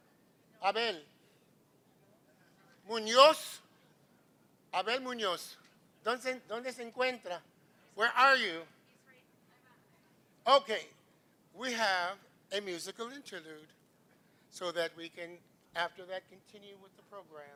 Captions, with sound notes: Abel Munoz. [NON-ENGLISH SPEECH] Where are you? OK. We have a musical interlude, so that we can, after that, continue with the program.